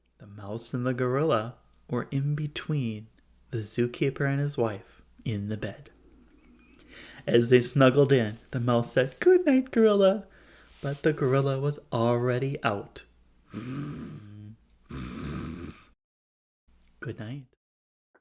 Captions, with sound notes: The mouse and the gorilla were in between the zookeeper and his wife in the bed. As they snuggled in the mouse said, “Good Night Gorilla,” but the gorilla was already out. (snoring) Good night.